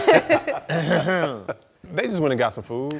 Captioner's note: clears Throat